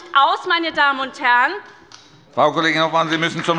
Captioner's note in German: Beifall bei der SPD